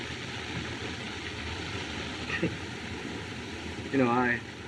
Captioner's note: chuckles